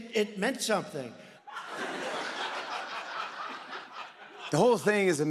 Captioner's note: laughter